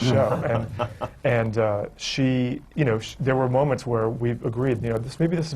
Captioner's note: laughter from the panel